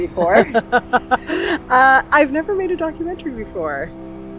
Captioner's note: laugh